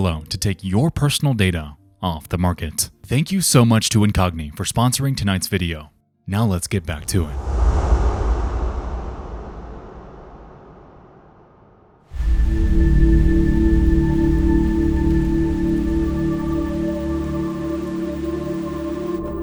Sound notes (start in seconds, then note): 7.5 suspenseful music; 12.1 wind whooshing; 12.1 foreboding music